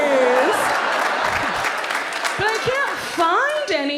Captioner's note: audience laughs